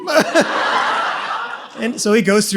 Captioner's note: audience laughs